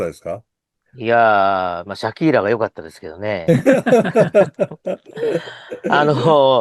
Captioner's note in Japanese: 笑い